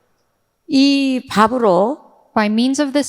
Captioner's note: speaking in foreign language